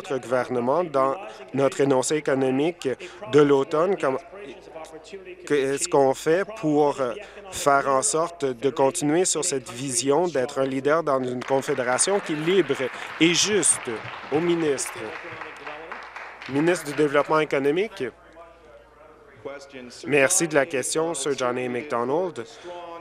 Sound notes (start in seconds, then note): 14.5 applause